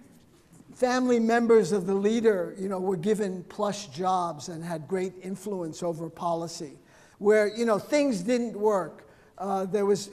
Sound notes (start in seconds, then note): none